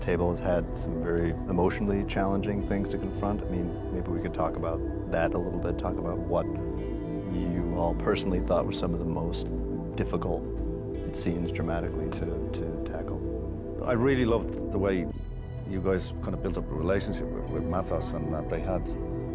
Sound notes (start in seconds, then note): none